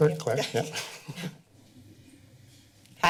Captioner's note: chuckles